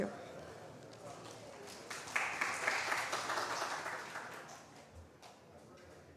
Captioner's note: applause